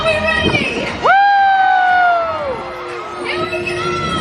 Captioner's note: crowd cheering